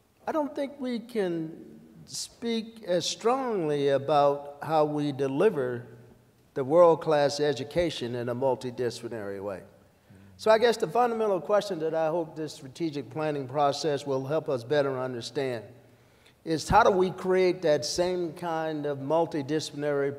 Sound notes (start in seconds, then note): none